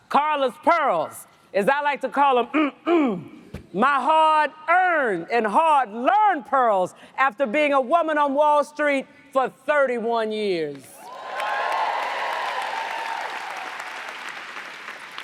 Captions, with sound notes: Carla's pearls. As I like to call them (clears throat), my hard-earned and hard-learned pearls after being a woman on Wall Street for 31 years. (audience cheers and applauds)